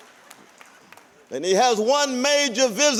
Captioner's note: applause